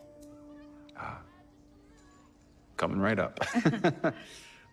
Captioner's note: chuckling nervously